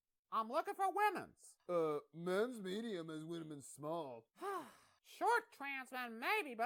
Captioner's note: sighing